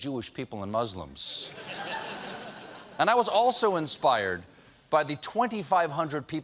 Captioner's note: laughter